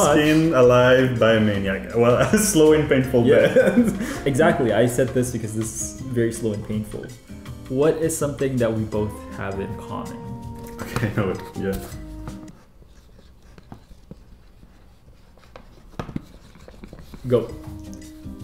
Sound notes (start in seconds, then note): 12.7 pens squeaking